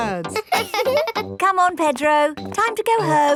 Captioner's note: both laughing; chuckles